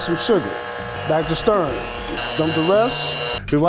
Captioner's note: whisk buzzes